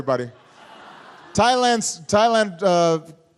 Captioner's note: laughter